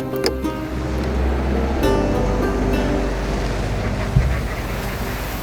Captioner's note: truck engine revving